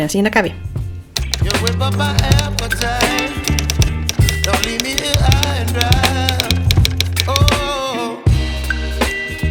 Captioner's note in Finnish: kirjoituskoneen naputusta